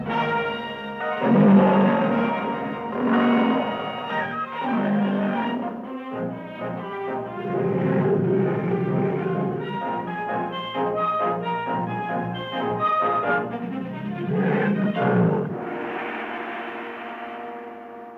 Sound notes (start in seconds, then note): 1.1 lion roaring; 7.2 leopard growling